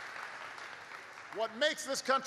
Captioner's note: applause